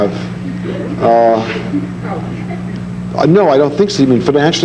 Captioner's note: audience laughing